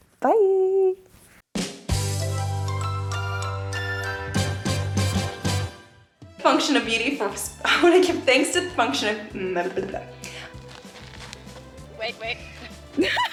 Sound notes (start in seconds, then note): 1.9 dramatic music; 9.4 bubbles; 12.0 laughs